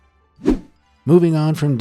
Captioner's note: image whooshing